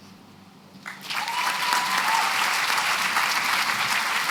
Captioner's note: cheering and applause